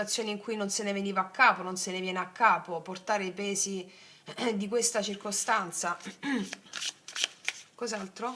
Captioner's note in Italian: schiarire la voce